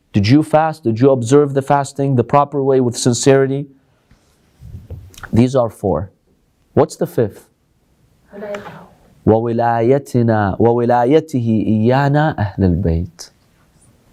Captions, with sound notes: Did you fast? Did you observe the fasting the proper way with sincerity? These are four. What's the fifth? [Arabic]